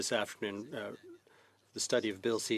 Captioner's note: speaking French